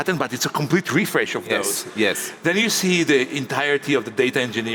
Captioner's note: none